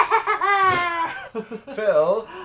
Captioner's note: they both laugh